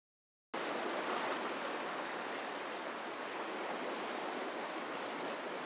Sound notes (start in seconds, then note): 0.5 waves lapping